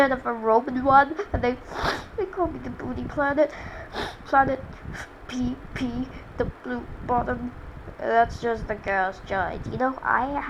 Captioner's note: sniff